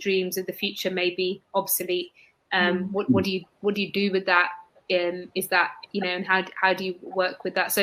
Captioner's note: erm; erm